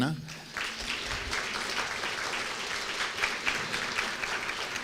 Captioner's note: applause